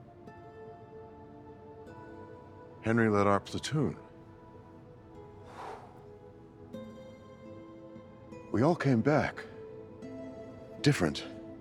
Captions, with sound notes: (gentle music) - Henry led our platoon. (sighs) We all came back, different.